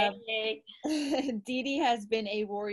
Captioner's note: laughs